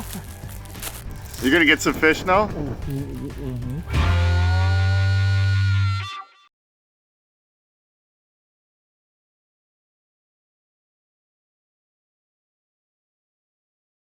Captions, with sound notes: - [Voiceover] You're gonna get some fish now? - Mhm.